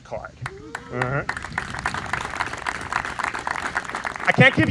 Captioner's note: audience applauds